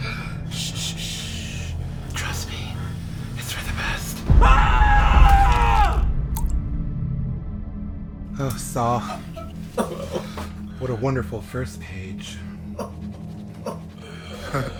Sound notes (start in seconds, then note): 6.2 plunk; 12.7 Saul, caughing and gasping for breath